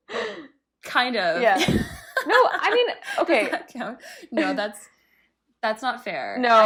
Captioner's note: giggle